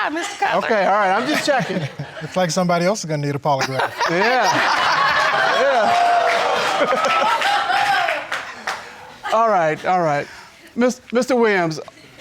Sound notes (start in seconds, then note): 5.5 audience laughing